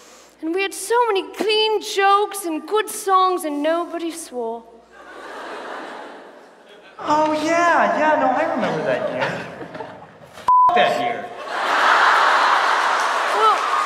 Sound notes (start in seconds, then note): 4.9 audience laughs softly; 11.3 audience laughs loudly